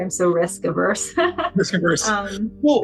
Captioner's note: laugh